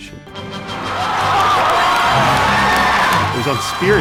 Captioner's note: crowd cheering